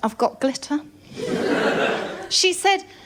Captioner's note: laughter